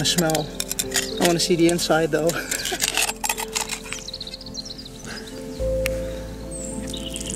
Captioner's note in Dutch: lacht